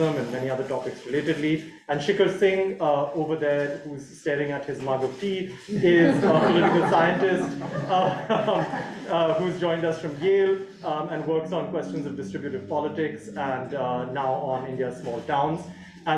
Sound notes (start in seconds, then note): 7.3 audience laughing